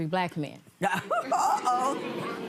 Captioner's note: laughing